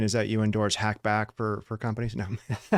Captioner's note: laughs